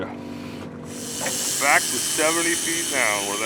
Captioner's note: reel spinning